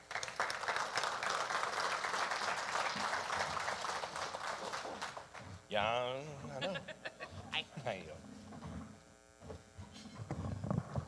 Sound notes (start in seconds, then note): 0.0 audience applauding; 5.8 guy vocalizing; 6.4 laughs